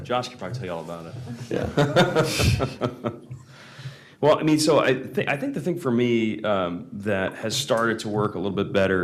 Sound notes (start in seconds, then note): 1.2 laughter